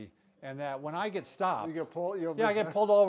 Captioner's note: laughs